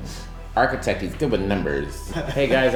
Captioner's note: laughing